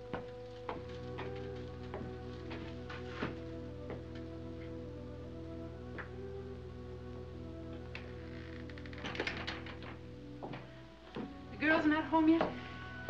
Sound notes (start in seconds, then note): none